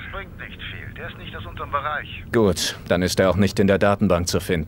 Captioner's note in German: am Telefon